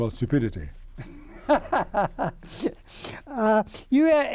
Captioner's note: laughing